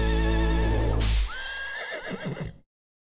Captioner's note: horse whinnies